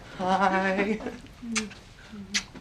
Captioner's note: cheek kisses